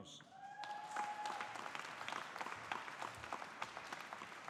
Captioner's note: audience applauding